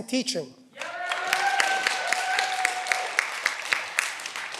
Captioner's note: cheering